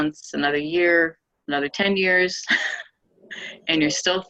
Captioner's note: laughing